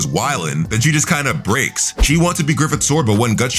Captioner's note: air whooshing